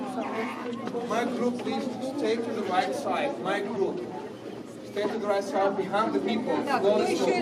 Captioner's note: continued crowd noise